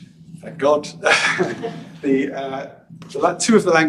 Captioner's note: he chuckles